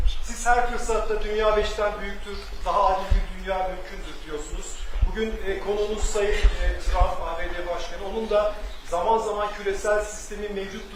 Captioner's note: speaking Turkish